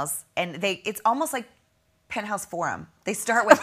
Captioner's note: laughing